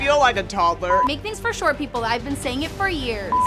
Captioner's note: beep